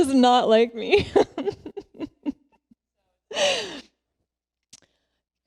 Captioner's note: laughs